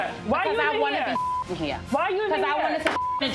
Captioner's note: beep